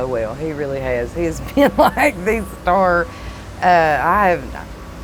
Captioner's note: laughs